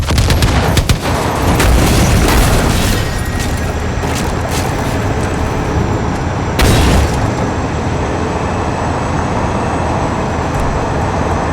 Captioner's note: gunfire